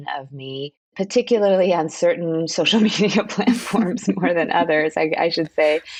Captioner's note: laughter